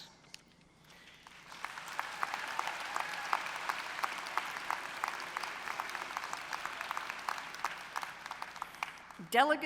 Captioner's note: applause